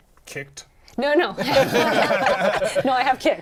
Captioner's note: laughter